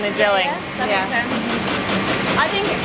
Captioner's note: machine noises